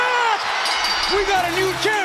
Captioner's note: bell rings